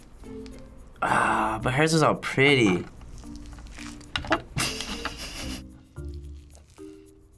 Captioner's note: snickers